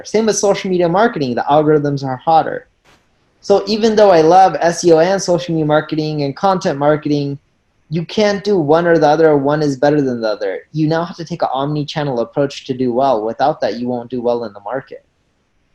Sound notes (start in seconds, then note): none